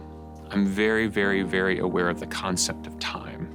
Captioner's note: none